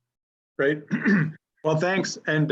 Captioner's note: clears throat